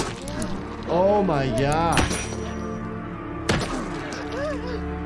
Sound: bat thudding

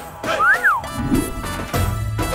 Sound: whistles

